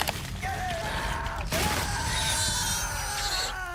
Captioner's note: person screaming